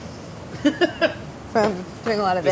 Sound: laughs

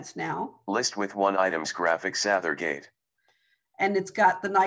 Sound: recorded voice

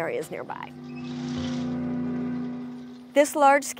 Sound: gentle music; oysters dropping

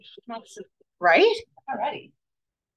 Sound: speaks faintly

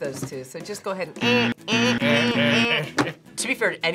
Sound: buzzer rings

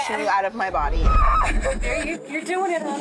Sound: screams

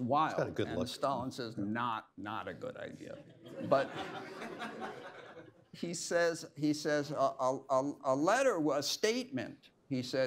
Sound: laughter

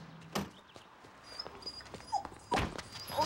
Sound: dog whining

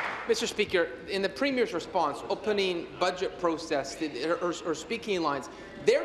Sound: applause

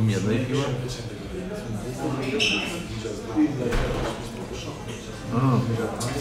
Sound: hubbub

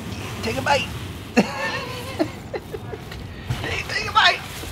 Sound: laughs

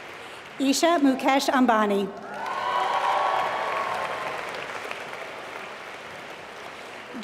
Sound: applause

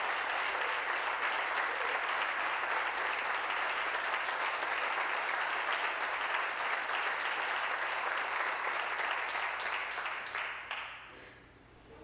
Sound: applause

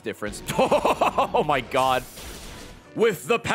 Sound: laughs

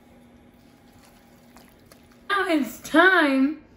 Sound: stirring

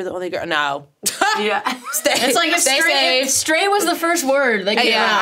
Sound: laughs

